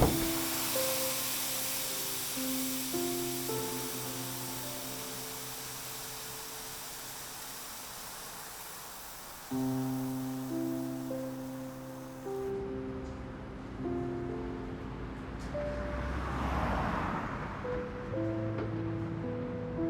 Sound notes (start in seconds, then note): 0.0 hands thudding; 0.1 steam hissing; 9.5 gentle music; 14.4 traffic whooshing